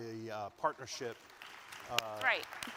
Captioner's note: audience claps